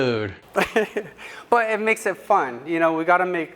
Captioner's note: chuckle